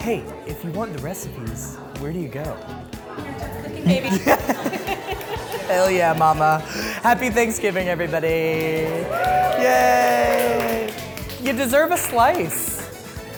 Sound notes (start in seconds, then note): 3.8 laughs; 8.8 cheering